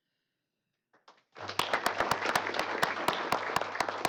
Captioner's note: applause